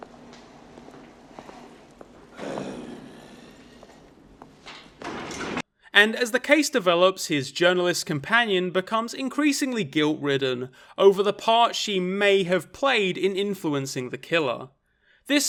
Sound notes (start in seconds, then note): 2.3 growls